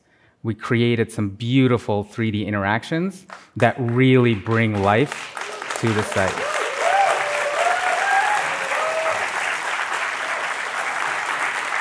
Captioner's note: applause